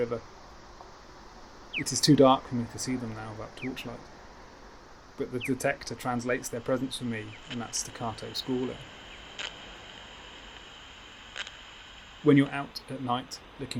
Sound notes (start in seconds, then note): 9.3 static hisses and clicks